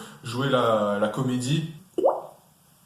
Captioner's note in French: son de goutte